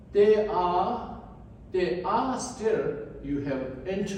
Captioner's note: none